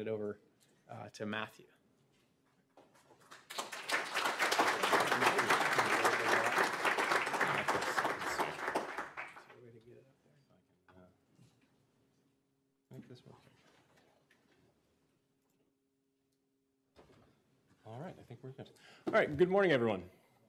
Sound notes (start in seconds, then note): 4.9 applause